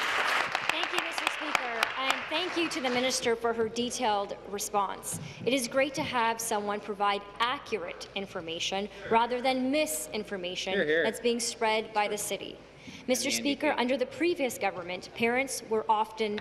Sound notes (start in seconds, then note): 1.8 applause